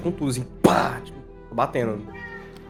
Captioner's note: pow